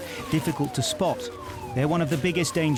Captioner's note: siren wailing